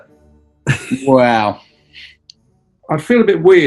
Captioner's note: chuckling